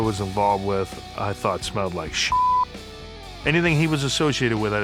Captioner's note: beeps